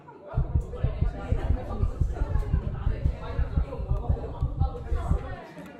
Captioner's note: heart pounding x100